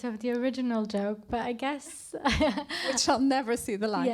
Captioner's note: laughs